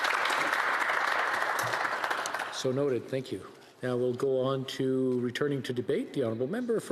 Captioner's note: applause